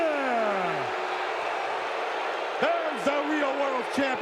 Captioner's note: audience booing